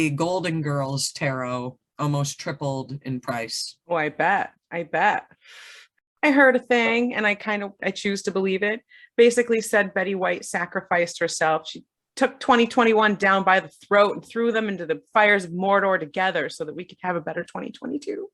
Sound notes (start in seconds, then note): 5.4 erxhales